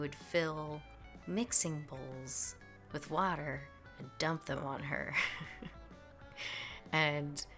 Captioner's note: chuckels